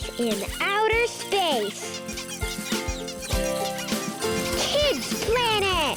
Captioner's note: animals squeaking; upbeat music